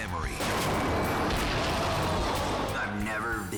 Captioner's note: bike crashing